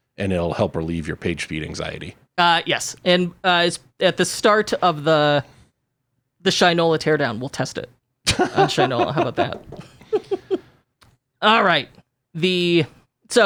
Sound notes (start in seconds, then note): 8.2 laughs